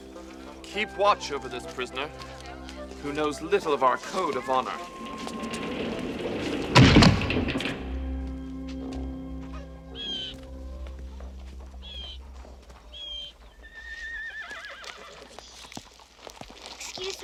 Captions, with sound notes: KEEP WATCH OVER THIS PRISONER... WHO KNOWS LITTLE OF OUR CODE OF HONOR. [drawbridge slams shut] [crow cawing] [horse whinnying] EXCUSE ME...